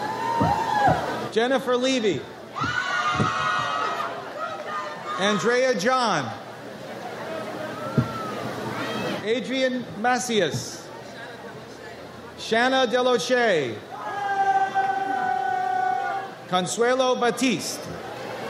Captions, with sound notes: Jennifer Levy. (audience cheers) Andrea John. Adrian Macias. Shanna Del O'Shea. Consuelo Battiste.